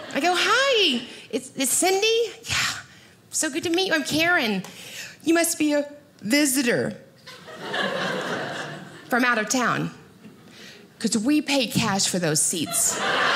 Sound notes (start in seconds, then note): 7.3 audience laughing